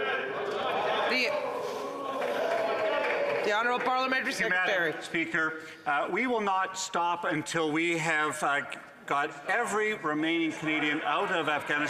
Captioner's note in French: voix de l'interprète